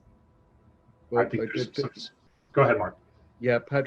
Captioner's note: speaks faintly